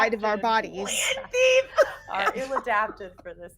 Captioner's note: people laughing